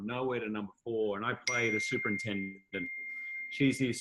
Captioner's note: bell dings